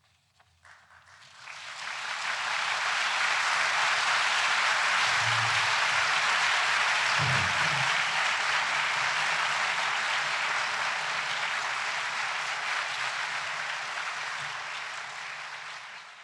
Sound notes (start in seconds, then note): 0.4 applause